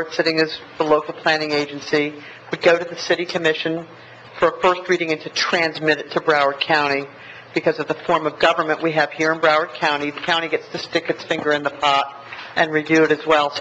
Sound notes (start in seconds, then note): none